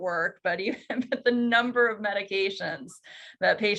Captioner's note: chuckles